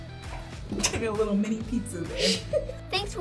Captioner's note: laughs